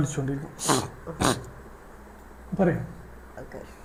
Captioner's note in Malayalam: ചീറ്റുന്നു